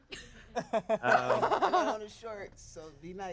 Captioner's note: everyone laughs